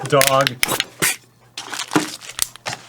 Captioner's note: breaking sound